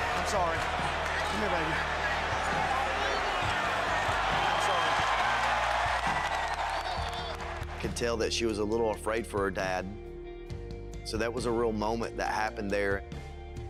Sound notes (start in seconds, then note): 4.8 crowd cheers